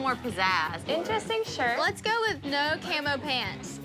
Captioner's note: mimics guitar